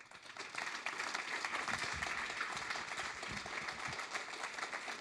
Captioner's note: audience applauds